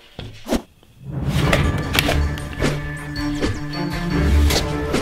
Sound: safety gear whooshing

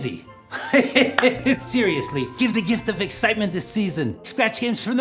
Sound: laughs

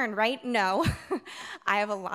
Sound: chuckles

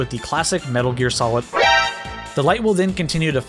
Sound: alert Sound Effect

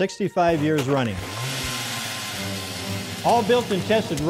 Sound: drilling

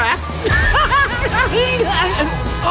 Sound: laughing

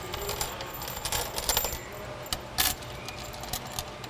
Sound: screws clattering

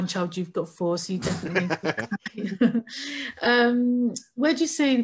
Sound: laughs

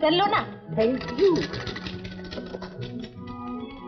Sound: typewriter keytop clacking

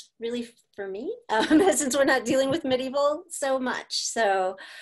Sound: laughter

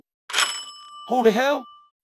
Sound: doorbell rings

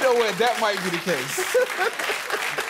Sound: laughter

